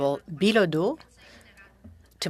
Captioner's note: speaking French